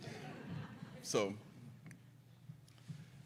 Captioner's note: audience laughs; giggles